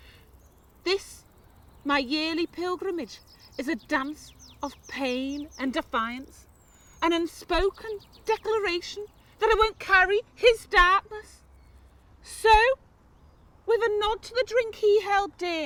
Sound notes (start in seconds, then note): none